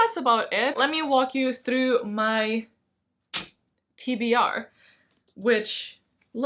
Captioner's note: smack